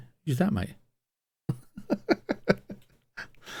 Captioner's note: laughs